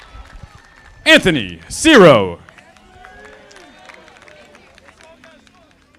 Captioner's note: audience applauding